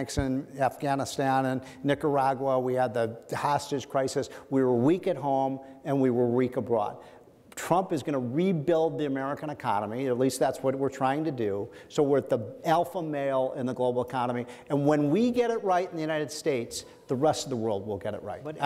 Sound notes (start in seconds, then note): none